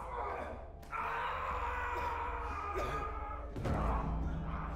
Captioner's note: yelling